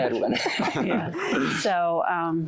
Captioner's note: laughter